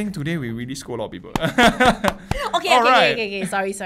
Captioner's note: clapping and laughing